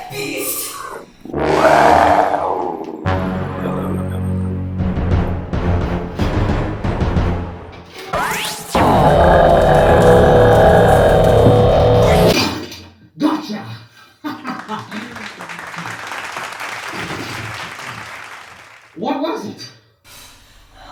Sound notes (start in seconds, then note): 12.3 roaring